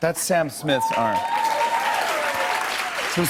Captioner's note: cheers and applause